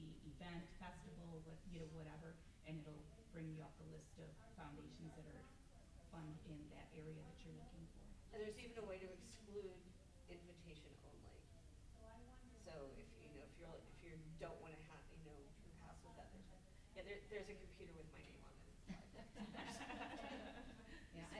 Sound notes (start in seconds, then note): 14.5 stammers; 19.0 group laughs